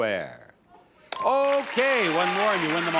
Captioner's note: audience chatters; counter beeps